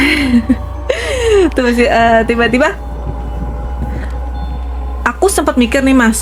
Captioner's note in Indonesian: terkesiap; tertawa